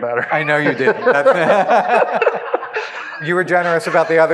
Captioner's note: laughs